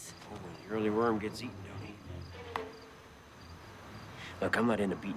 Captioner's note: teeth clack